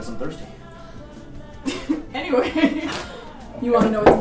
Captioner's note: laughs